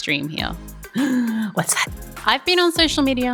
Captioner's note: gasp